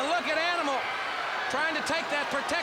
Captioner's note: crowd chatter